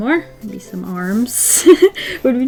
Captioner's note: laughs